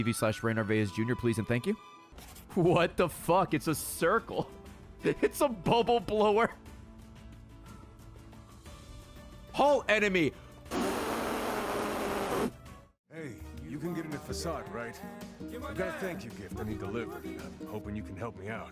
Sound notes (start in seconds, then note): 9.0 laughs; 10.7 blows